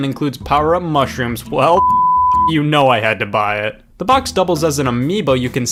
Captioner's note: beep